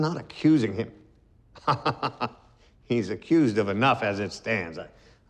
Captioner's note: laughs